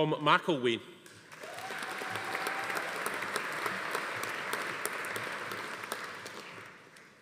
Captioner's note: audience applauding; attendee cheering